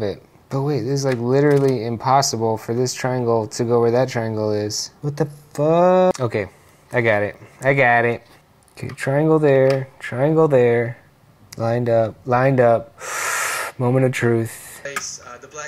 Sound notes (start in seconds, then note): 12.9 deep Inhale